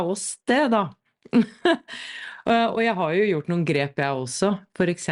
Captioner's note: laughter